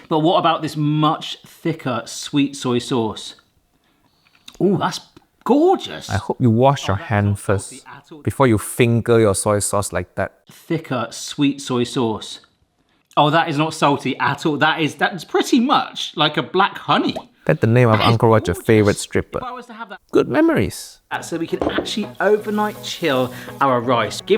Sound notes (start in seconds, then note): 21.2 rice pouring; 21.4 glass thuds